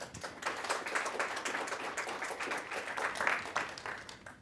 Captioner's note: applause